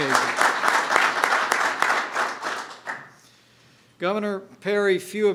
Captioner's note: applause